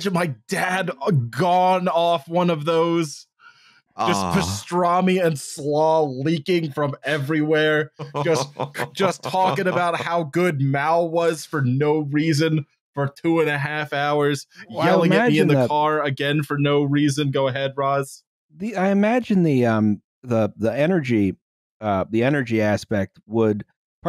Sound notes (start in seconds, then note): 7.6 chuckles